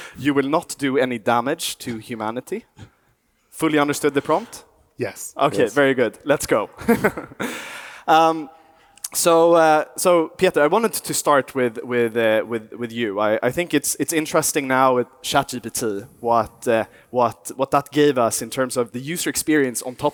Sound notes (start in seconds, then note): 6.8 chuckles